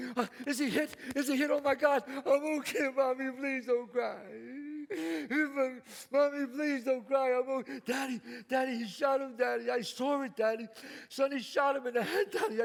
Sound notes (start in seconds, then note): 0.0 claps; 4.2 sobs